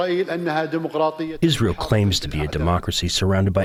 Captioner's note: through translator